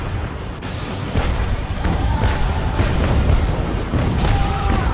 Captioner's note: explosions booming